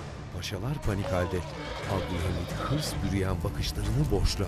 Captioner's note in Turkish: Müzik - Gerilim; At kişneme sesi; Alev sesi